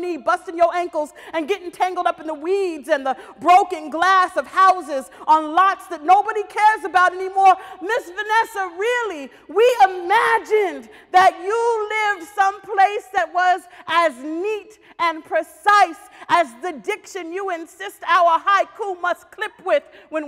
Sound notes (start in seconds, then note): none